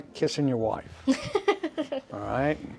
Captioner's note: laughs